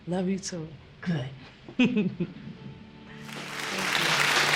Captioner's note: clapping